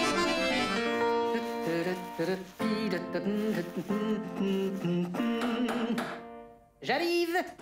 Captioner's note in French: Il chantonne